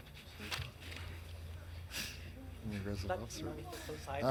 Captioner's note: indistinct chatters